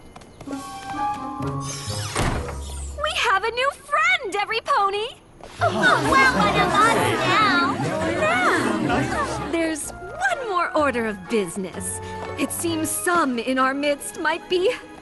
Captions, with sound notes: We have a new friend, everypony! [excited chatter] There's one more order of business. It seems some in our midst might be